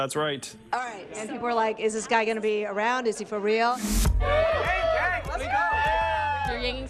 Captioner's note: cheering